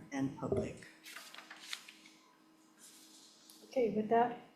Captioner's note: paper rustling